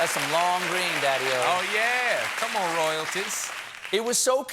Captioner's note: applause